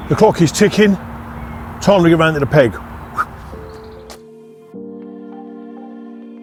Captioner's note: whistles; chilled out music